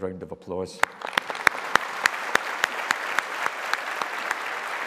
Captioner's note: all applauding